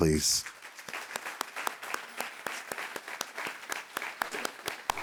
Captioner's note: applause